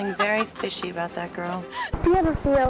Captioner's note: girls laughing